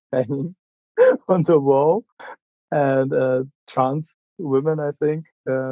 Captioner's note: laughing